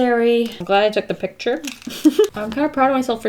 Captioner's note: laughs